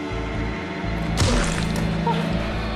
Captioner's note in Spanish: Estrépito